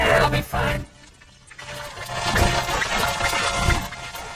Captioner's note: Gloink squeaking rapidly